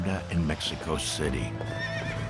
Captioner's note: horse neighs